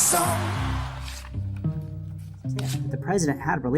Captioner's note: photo ripping; suspenseful music